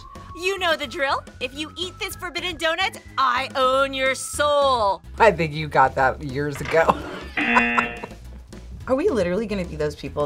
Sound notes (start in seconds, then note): 6.8 laughs; 7.0 buzzer